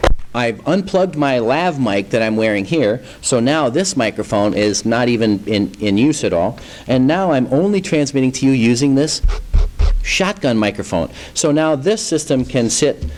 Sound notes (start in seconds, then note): 9.2 scratch scratch